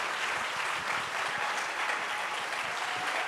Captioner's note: applause, cheers continue